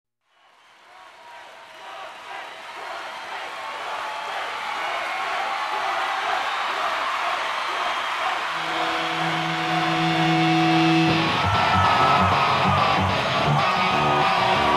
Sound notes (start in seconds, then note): 1.5 audience cheering; 3.5 audience chanting " "